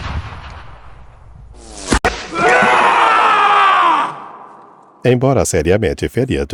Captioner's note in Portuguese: grito